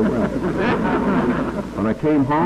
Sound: laughter

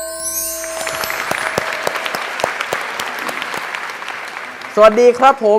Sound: clapping sound

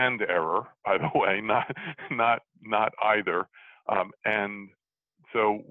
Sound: laughs

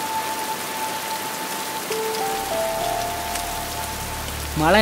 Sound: heavy rain sounds

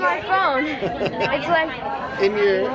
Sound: laughing

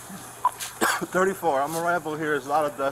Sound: coughing

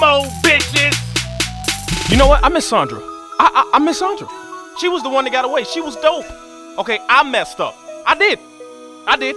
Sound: Jay talking

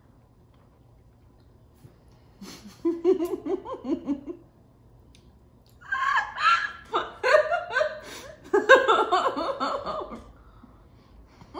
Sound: laughing

